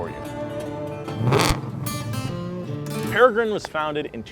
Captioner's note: engine noise